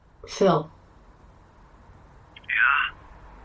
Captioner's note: quietly